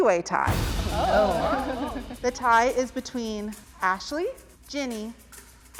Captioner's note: participants exclaim